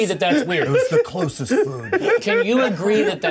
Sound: co-hosts laughing

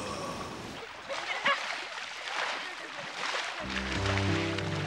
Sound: water splashing

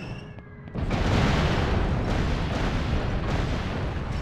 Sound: explosion

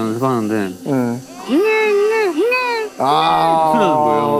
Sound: crying

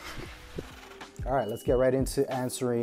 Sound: air whirring

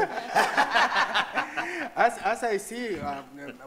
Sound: audience laughing; chuckles

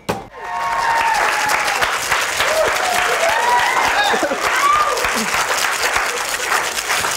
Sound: cheering off camera

